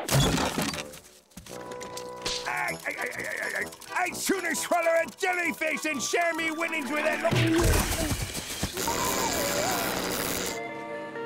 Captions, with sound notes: [chuckling] I'd sooner swallow a jellyfish than share my winnings with any-- [zapping]